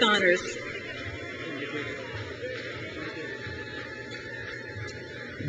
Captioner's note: crowd cheers